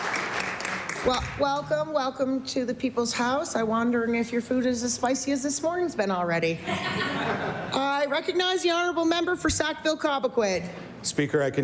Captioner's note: applause